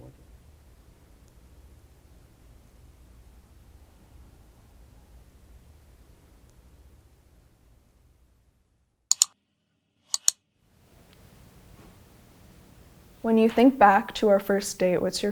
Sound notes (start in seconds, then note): 0.1 silence; 9.1 mouse clicking